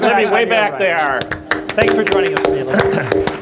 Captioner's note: applauds